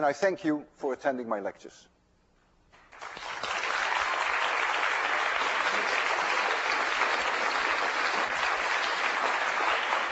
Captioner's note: class applauds